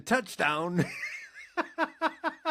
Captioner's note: laughing